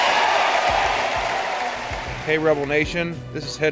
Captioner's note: cheering